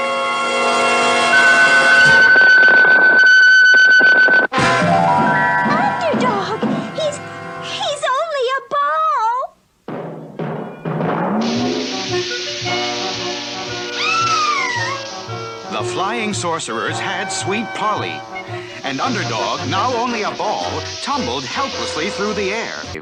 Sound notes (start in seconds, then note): 9.8 bouncing; 13.9 Sweet Polly Screams